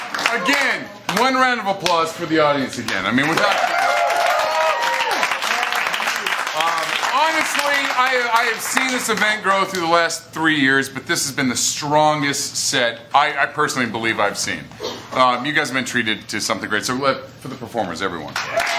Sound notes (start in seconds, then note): 3.1 applause & cheers; 18.3 applause & cheers